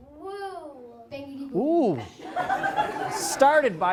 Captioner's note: audience makes noises; laughter